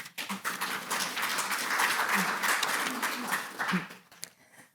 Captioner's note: audience applauding